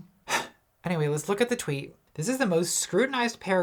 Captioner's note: sighs